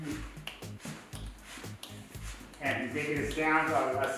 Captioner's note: fingers snapping, feet shuffling